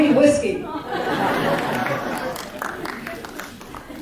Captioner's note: laughter